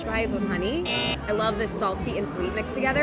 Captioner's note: horn